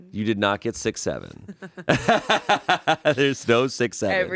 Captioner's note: laughs